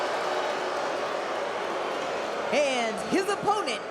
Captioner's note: crowd boos